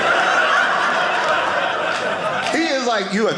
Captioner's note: audience laughing